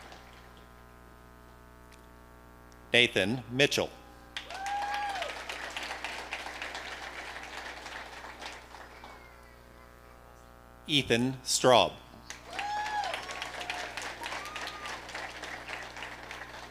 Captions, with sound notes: Nathan Mitchell. (audience applauding) Ethan Straub. (audience cheering)